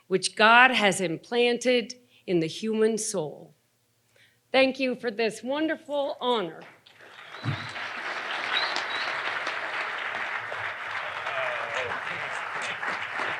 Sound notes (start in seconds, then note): 6.8 audience applauding